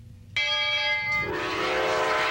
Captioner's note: bell clanging; whistle blowing